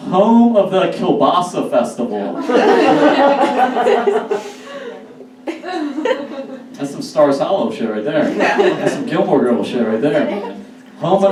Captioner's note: audience Laughs